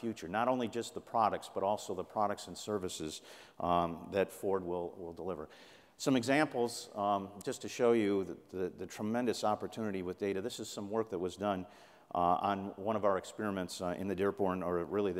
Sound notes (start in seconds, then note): none